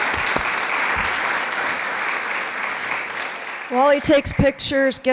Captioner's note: clapping